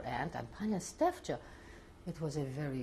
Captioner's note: non-english